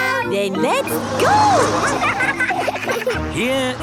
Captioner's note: laughing